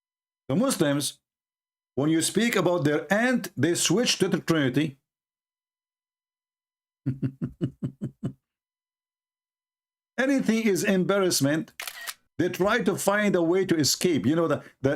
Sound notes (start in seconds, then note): 7.0 Ketawa